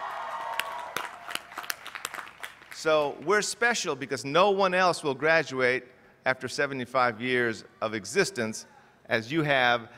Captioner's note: cheers